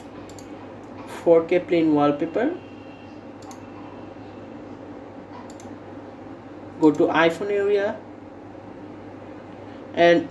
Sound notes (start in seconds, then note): 3.4 mouse clicking